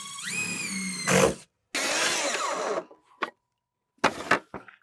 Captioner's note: power tool whizzing